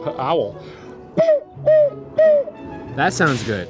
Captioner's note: blows whistle